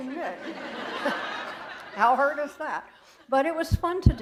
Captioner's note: laughter